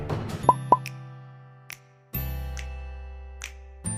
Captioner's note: popping noises and background music